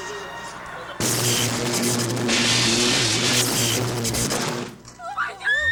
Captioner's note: electricity buzzing